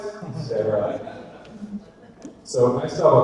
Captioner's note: audience laughter